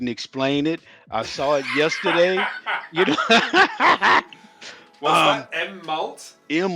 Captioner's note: laughing